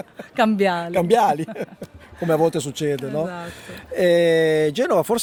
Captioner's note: laughter